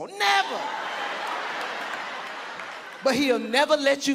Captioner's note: audience laughing